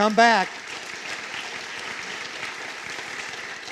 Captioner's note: applause